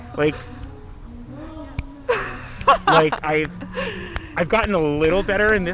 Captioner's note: fingers snapping